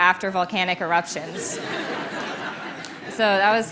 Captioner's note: laughter